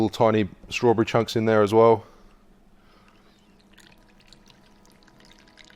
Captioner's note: liquid patters